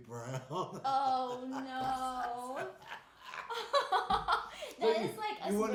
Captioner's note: laughing